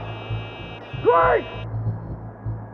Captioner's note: beeping